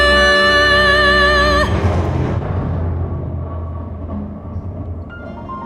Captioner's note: thunder rumbling